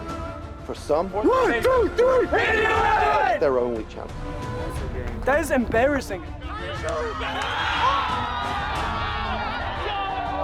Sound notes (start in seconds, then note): 6.5 team cheering